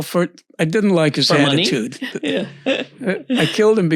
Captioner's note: laughs